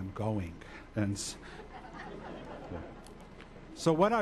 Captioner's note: audience laughs